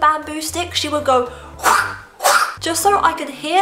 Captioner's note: whip sound effect